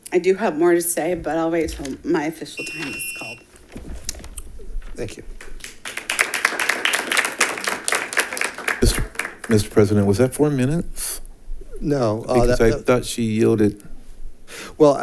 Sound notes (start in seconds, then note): 2.5 timer beeping; 5.0 audience clapping